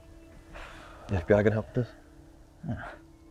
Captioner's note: Liz exhales